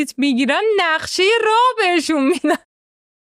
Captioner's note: laughs